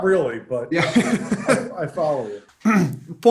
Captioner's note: laughter